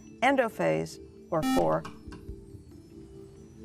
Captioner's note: buzzer